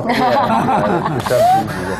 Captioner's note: laughter